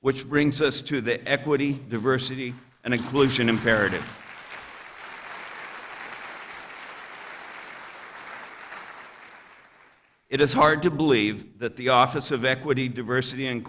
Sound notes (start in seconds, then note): 2.4 applause